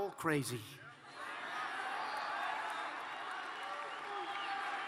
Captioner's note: cheers and applause